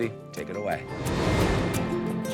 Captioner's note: graphics whooshing; light uplifting music